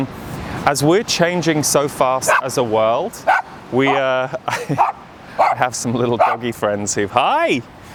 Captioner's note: laughs